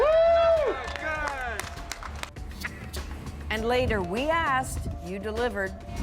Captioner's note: cheers and applause